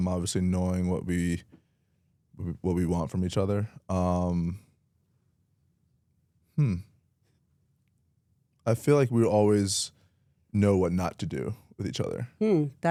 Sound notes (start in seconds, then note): none